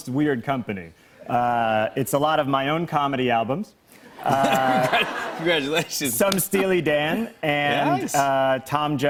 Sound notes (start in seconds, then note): 4.2 laughter